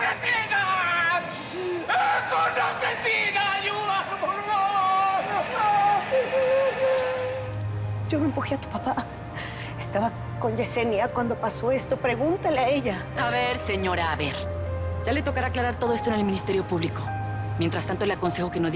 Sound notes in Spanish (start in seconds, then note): 6.9 Gritos; 8.4 Sollozos